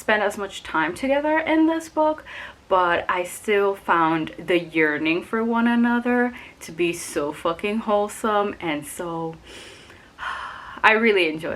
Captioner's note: sighs dreamily